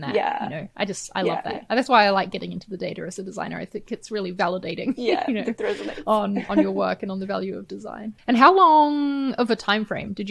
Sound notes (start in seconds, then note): 5.0 chuckles